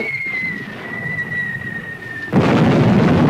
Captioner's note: missiles whistling; explosion booming